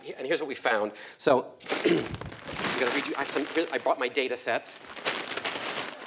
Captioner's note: cough